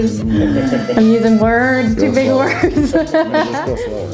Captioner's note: laughs